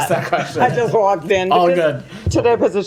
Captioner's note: laughter